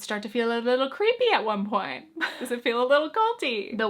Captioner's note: chuckles